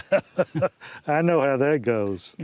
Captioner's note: laughing together